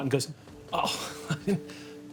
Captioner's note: laughs